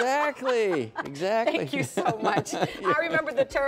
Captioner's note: laughter